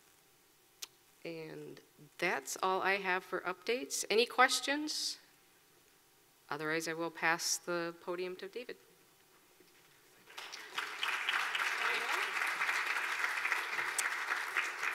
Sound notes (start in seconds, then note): 10.3 clapping